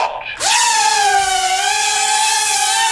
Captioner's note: drone noises